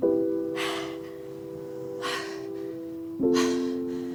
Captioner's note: sexual panting